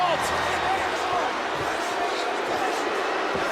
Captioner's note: crowd booing